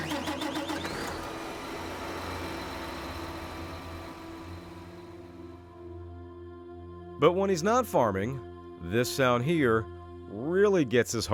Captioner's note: tractor starting up